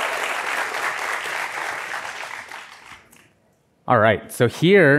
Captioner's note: applause